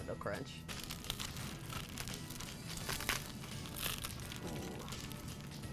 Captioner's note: bread crunching